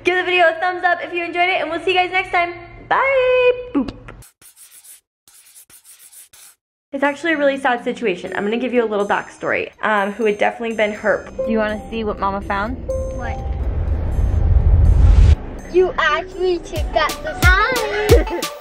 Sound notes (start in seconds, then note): 5.2 chalk writing